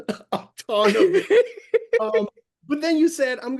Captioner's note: laughs